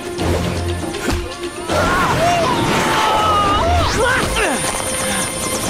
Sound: grunting

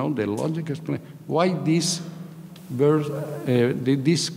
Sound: speaking in a foreign language

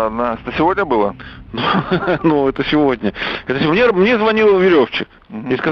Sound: laughs

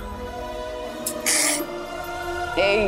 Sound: sobs

